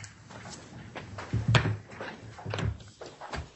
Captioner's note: door opens